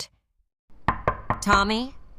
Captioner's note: knocks